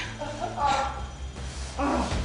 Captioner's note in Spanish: Quejidos